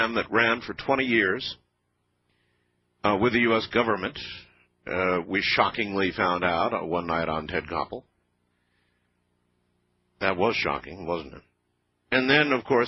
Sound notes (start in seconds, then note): 7.2 radio